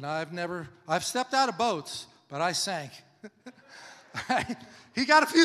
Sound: laughs

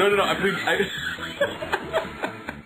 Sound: laugh

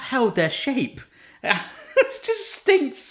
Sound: laugh

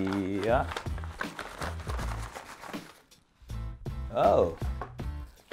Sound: package rustling

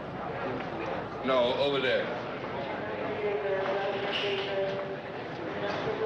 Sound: intercom blaring

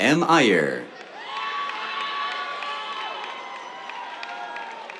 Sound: cheers, applause

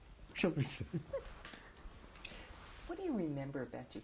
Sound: laughs

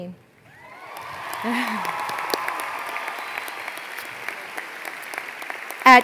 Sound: applause

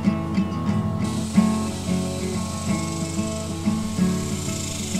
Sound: cicadas rattling

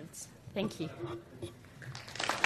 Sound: applauding

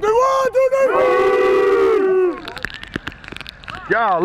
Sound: shouting

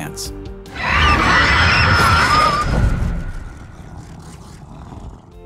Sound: Barb screaming

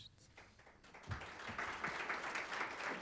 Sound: applause

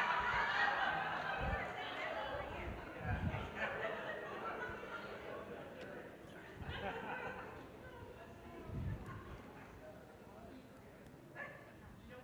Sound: laughter

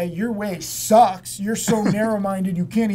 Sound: laughs

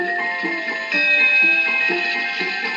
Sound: ding

